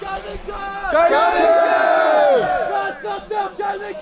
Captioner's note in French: cris de victoire